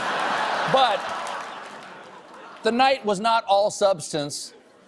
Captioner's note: laughter